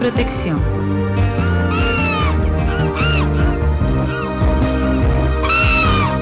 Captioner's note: birds